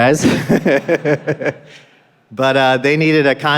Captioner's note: laughing